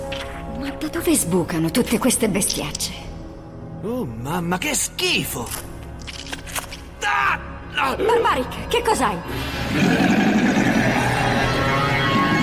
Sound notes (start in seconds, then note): 6.8 shrieks; 9.6 barbaric snarls